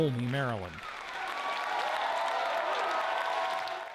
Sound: cheering and applause

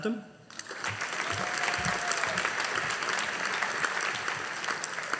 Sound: audience applauding

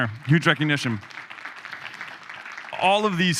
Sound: audience applauding

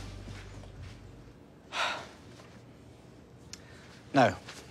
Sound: sighs

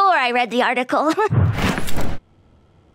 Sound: chuckles

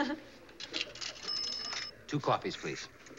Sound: laughs; phone bell dinging

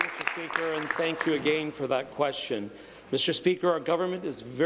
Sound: applause

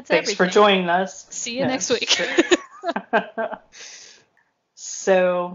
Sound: laugh

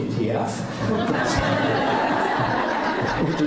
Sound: laughing

